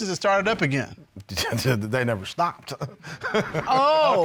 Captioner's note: scoffs, laughs